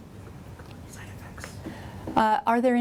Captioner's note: whispering